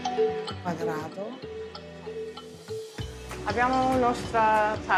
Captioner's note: speaking Italian